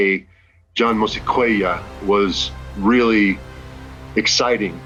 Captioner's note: speaks in Sangheili